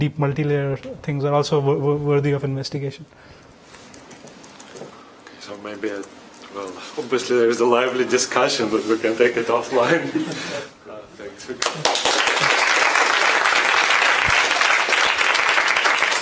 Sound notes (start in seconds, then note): 11.6 applause